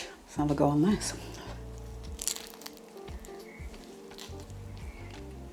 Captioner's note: crunch